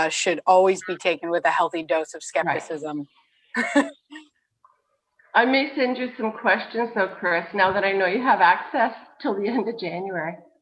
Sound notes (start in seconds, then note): 3.5 chuckles